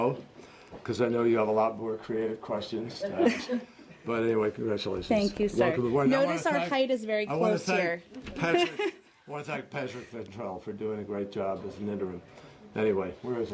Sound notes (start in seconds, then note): 9.9 laughter